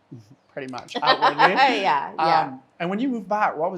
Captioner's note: laughs